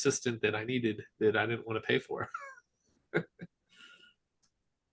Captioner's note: chuckles